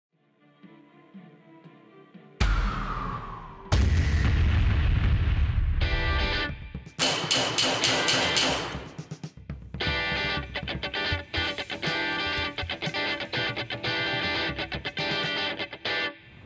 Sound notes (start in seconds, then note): 2.4 explosions; 7.0 gun Shots